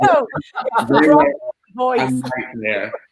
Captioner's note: laughter